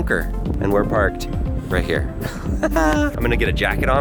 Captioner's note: laughs